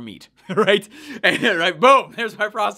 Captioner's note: laughing